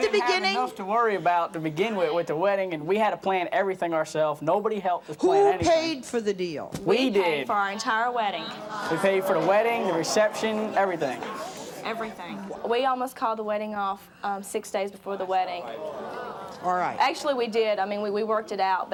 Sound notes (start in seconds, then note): 15.5 audience muttering